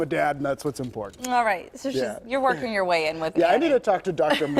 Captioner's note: laughter